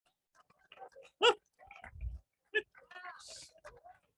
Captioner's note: laughs